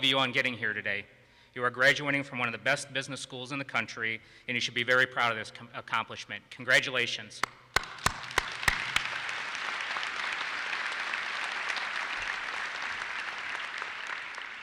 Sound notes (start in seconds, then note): 7.6 claps; 7.8 audience applauses